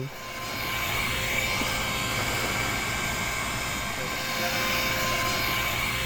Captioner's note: inflator Sound